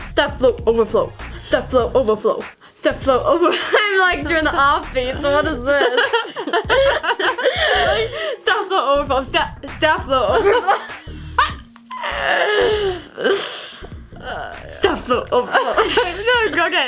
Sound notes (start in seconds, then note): 5.3 laughing; 11.2 laughing